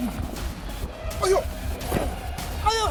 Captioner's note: grunting